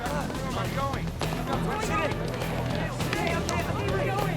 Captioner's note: confused hubbub